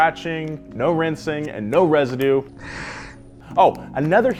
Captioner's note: sniffs